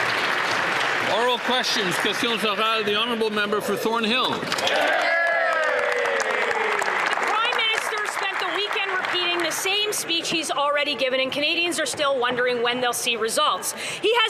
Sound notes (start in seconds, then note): 4.2 some Applause